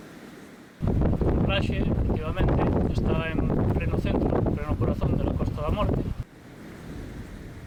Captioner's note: sound of the rough winds of the Atlantic